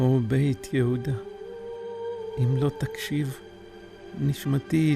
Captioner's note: speaking in Hebrew